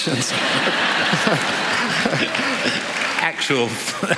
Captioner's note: laughter